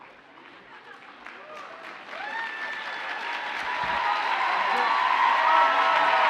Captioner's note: audience cheers and applauds